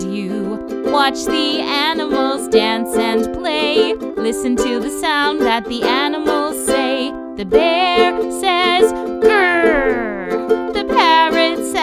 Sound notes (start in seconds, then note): 9.3 bear growling